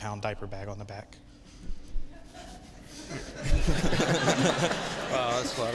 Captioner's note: laughter